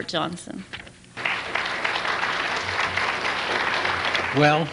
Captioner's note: applause